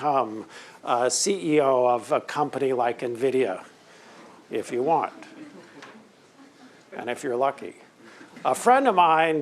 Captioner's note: laughter